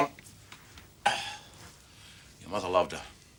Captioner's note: sighs